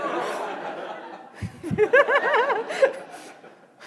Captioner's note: laughing